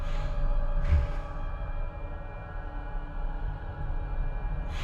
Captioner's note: Bigfoot breathing